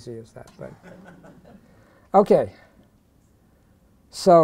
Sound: laughter

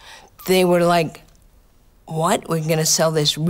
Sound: none

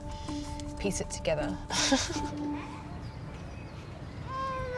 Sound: laughs

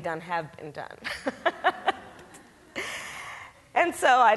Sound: Kamala laughs

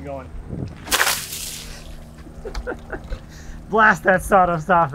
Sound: water sloshing

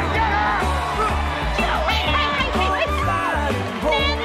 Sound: Nancy screeching

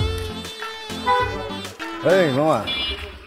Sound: car horn

